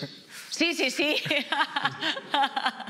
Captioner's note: laughs